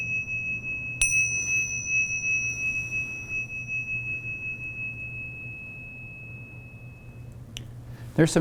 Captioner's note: dings bell